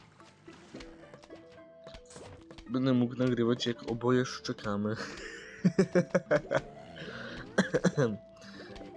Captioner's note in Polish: śmiech